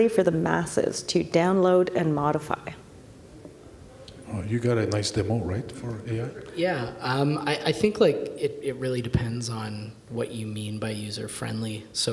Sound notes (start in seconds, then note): none